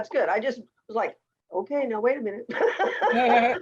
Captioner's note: laughs